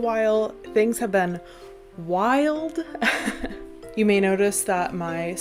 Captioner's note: laughs